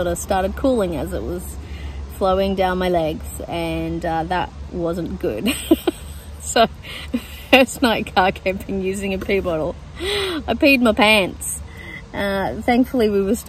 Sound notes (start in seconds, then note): 5.5 laughs; 5.5 still laughing